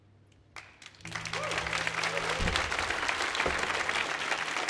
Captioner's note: audience applauding